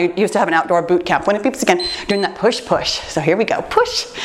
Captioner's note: timer beeps